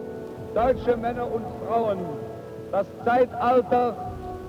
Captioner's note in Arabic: الصوت المنطوق باللغة الألمانية